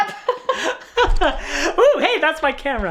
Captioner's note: laughing